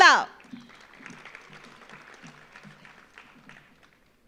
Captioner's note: audience applauds